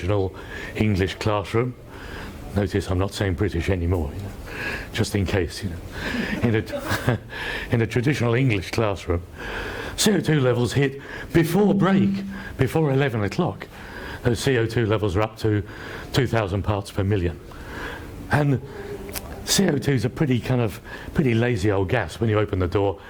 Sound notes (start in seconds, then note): 6.1 laughs